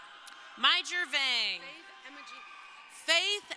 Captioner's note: crowd cheering